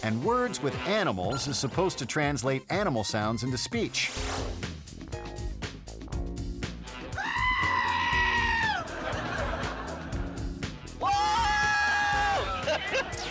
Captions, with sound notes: And "Words with Animals" is supposed to translate animal sounds into speech. (upbeat music) (goat screaming) (audience laughing) (lively music) (zebra screaming)